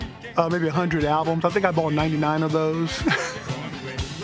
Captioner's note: laughs